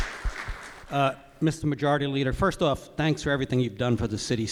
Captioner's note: applause